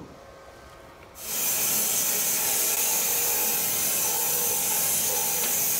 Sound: saw blade humming

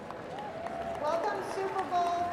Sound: cheers and applause

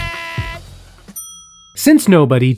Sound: bell dings

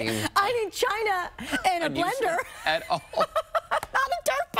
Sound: laughter

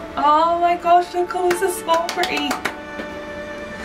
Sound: hands clapping

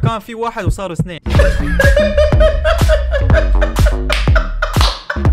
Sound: fake laughing

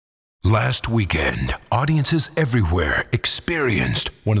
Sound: voiceover

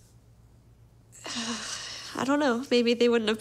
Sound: sighs

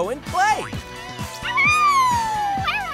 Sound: howling; laughs

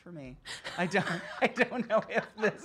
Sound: laughter

